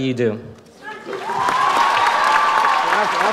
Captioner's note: audience applauds